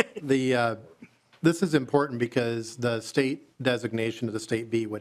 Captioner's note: laughing